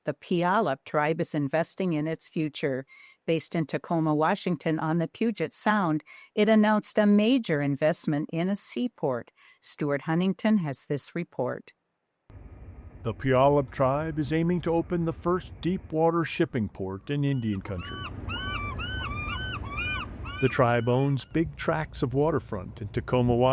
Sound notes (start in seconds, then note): 17.2 seagulls squawking